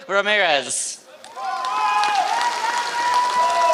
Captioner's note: applause